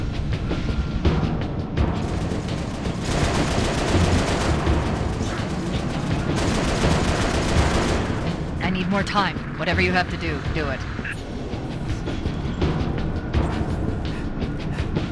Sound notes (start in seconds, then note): 8.7 radio